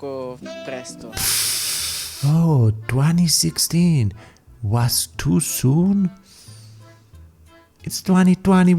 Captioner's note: inhale